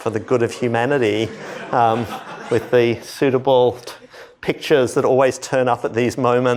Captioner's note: laughter